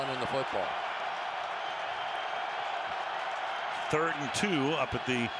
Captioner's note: cheers